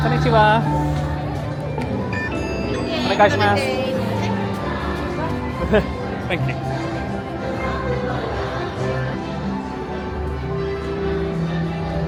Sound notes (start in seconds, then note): 2.1 sensor beeping; 7.5 bright music